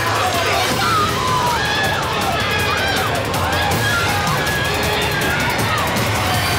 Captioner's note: group shouting; dramatic music continues